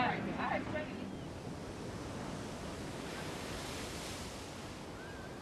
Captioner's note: waves crashing; wind whooshing; birds squealing